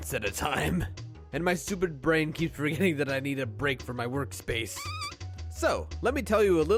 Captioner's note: squeak